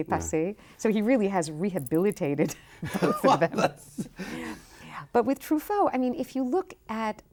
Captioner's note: both laughing